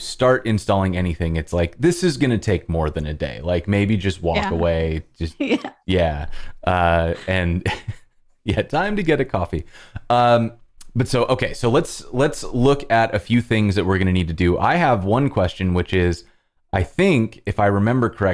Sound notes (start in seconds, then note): 7.2 laughter